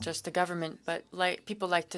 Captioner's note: speaking French